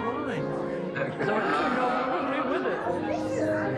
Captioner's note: laughter